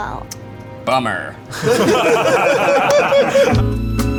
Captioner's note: guys laughing